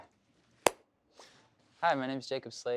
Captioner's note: claps